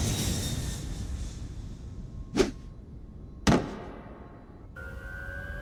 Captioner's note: plane passing sound